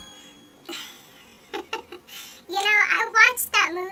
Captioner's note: laughs